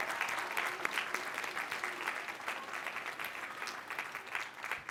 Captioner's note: applause